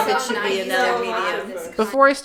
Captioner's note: laughter